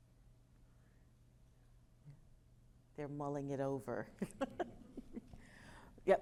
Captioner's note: laughter